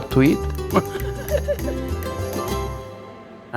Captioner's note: laughs